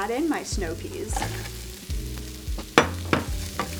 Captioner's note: peas clattering; fry pan sizzles; glass dish bangs